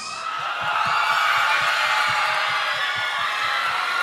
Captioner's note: audience cheering